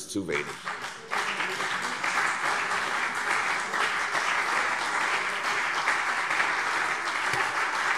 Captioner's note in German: Beifall CDU und BÜNDNIS 90/DIE GRÜNEN